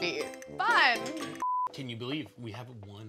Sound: beep

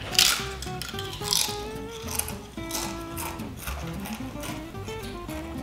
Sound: chips crunching loudly

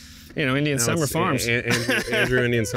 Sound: laughs

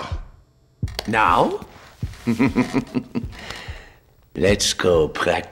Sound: chuckling

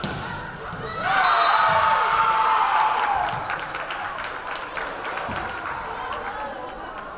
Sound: crowd cheering; whistle blaring

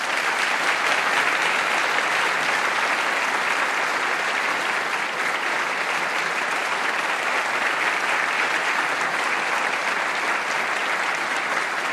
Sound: applause

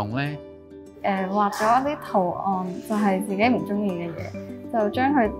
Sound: Cantonese

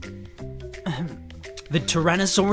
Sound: ahem

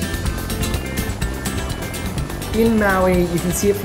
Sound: upbeat music; helicopter whirs

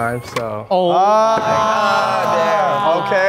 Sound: group yells

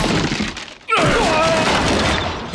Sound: groaning

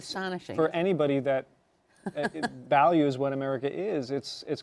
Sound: laughs

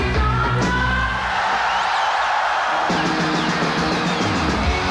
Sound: audience screaming

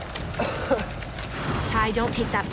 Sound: coughing

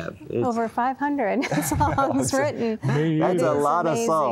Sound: giggle

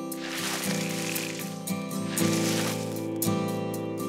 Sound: plant crackles

